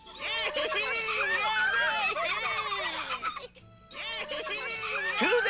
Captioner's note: cheering